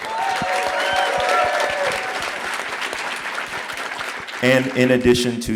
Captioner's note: audience applauding